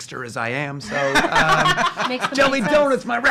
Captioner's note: laughing